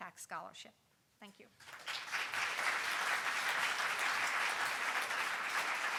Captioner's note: audience applauding